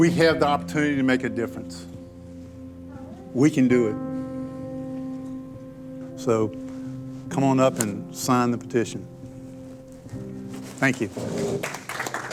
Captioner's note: applause